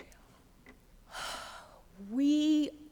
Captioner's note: sighs